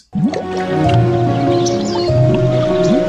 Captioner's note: bubbling; birds chirping; gentle music